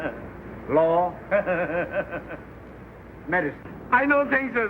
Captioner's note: laughs and shakes head